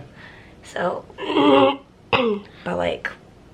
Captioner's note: clears throat